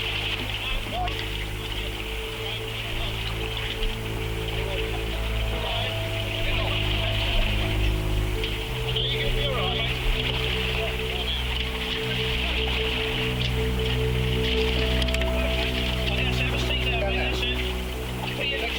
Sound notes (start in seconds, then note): 0.1 tense music; 10.8 rescuers chatting